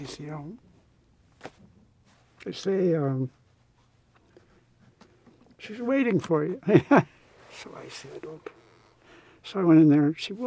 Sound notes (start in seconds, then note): 7.0 laughs